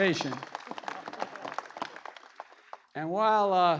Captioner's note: laughter